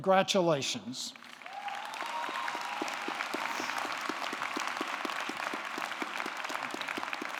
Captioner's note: audience clapping; audience cheering